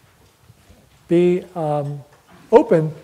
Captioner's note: none